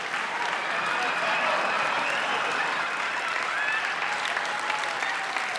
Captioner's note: laughter